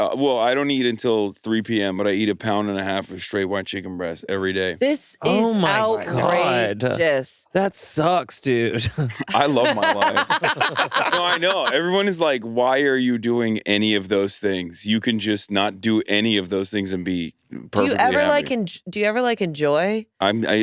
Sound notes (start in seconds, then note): 8.8 all laughing; 8.8 laughs